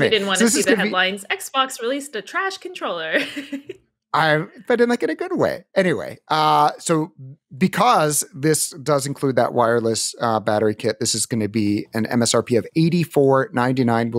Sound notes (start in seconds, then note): 4.2 laughs